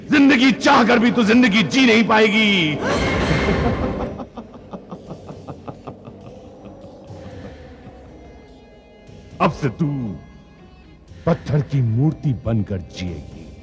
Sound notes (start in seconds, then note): 2.8 evil Laugh; 2.8 gasps